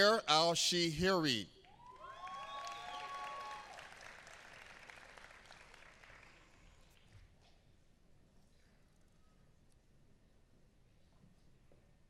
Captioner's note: applause